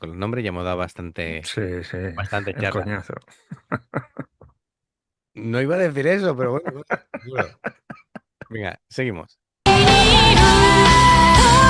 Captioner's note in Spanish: risas